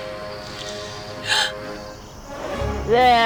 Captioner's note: gasp